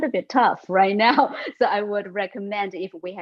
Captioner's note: laughs